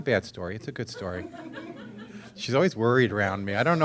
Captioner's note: audience laughing